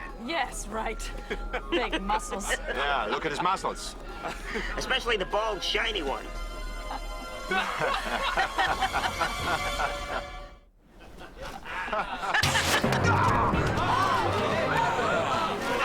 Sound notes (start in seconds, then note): 3.0 laughing; 6.6 dramatic orchestral music; 7.8 laughing; 10.9 laughing; 12.4 thwack; 12.4 woosh; 12.4 groans